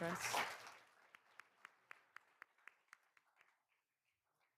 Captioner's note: all applauding